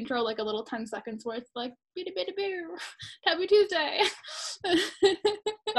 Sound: funny noise

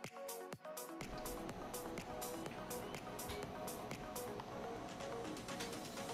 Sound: radiation machine whirring

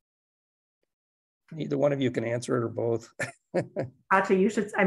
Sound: laughter

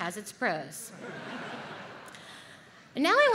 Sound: audience laughs

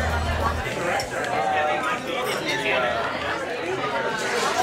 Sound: restaurant chatter

